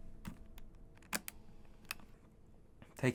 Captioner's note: tape recorder clicks